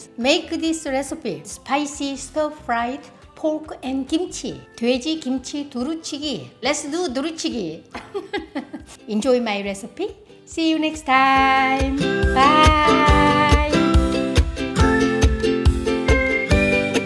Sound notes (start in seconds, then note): 7.9 chuckles; 14.4 bright music